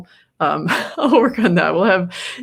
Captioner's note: laughs